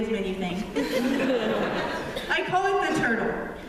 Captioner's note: laughter